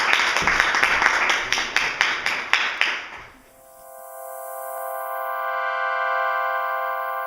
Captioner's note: applause